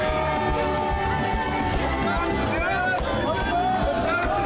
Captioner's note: speakers speaking in foreign language; crowd cheering